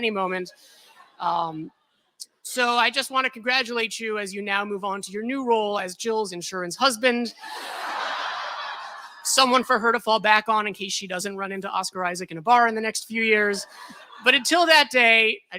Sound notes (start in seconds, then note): 7.4 laughter